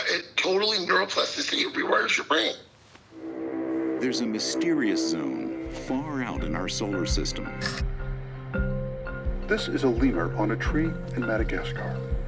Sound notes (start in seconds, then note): 7.6 click